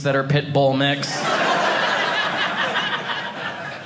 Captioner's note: audience laughing